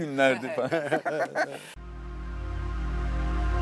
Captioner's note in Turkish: kahkaha